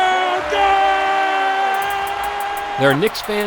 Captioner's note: cheering